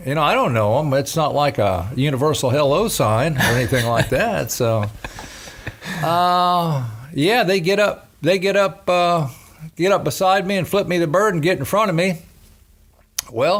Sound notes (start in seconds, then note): 5.3 laughing